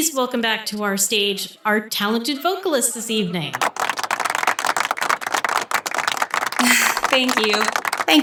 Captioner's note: scattered applause